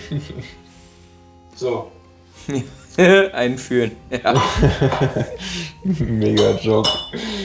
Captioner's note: giggles; laughs